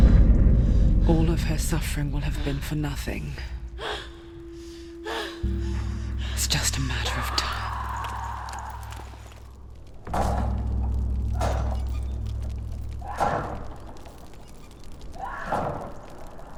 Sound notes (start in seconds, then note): 3.7 heavy breathing; 8.9 screams in anger; 10.0 pounding on door; 12.8 pounding, yelling continues